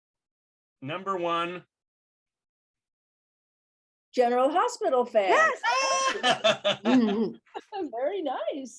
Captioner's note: laughter